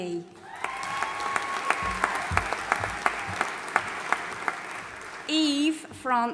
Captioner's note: audience applauding and cheering